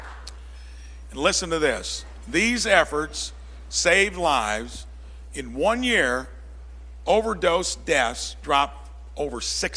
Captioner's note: applause